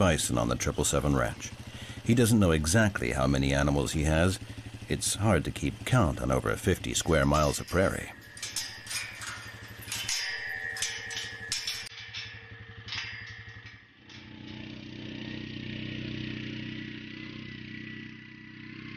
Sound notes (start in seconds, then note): 8.7 chain clanging; 15.1 dramatic music